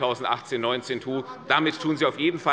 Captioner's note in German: Lachen des Abg